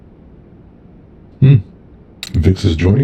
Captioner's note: Pauler surprised sound